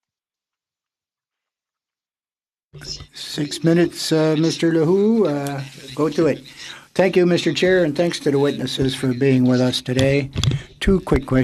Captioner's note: speaking French